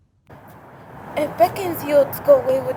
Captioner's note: wind Blowing